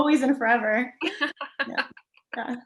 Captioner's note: laughs